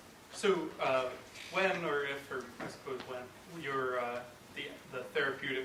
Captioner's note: voiceover